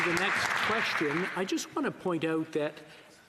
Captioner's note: some Applause